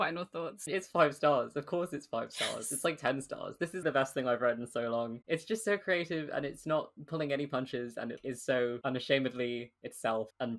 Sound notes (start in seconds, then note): 2.0 whispering